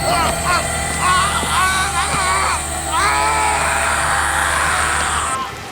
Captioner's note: high-pitched electronic noise; yells in pain